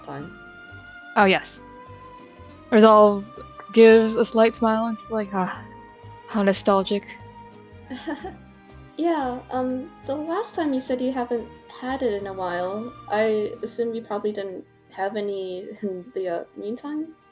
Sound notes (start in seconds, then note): 7.9 nervous laugh